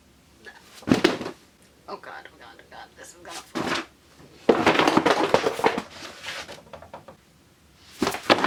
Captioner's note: books fall